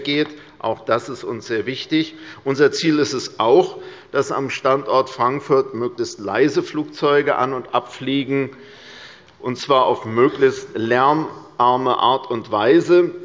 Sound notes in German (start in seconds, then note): none